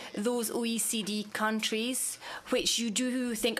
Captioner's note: speaking French